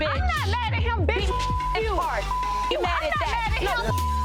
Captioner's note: beep